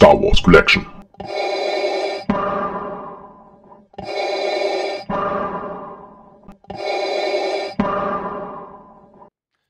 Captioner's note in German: Darth Vader Atemgeräusche